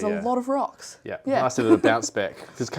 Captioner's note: laughs